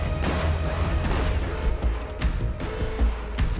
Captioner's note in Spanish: Disparos